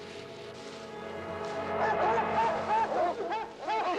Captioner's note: barking